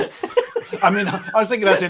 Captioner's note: laughing